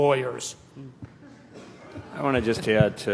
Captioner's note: laughter